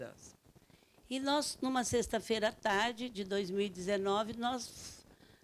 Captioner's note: speaking Portuguese